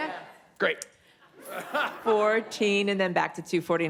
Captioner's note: laughs